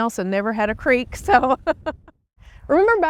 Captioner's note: laughs